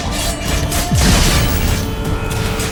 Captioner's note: lightning cracks